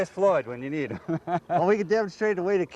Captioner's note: laughter